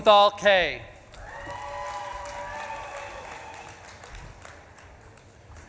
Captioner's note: audience claps and cheers